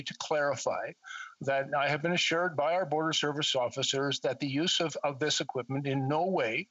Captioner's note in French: voix de l'interprète